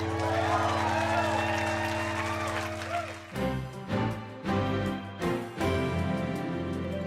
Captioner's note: cheers and applause